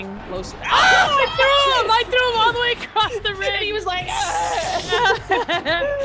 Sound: laugh

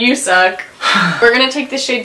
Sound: sighs

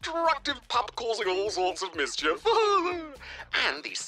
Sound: laughs

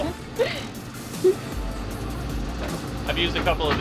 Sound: woman giggles

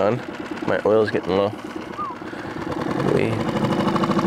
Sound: whistling

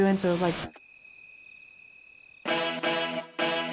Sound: crickets chirping; upbeat music

